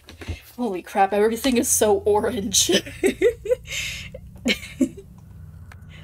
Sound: chuckles

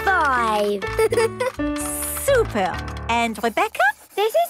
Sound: giggles

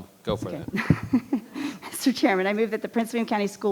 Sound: laughing

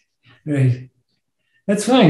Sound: laughs

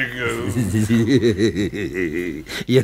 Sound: laughs satisfied

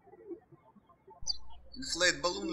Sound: birds chirping

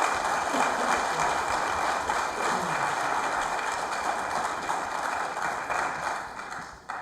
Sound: applause

